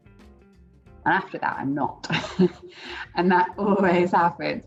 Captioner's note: laughs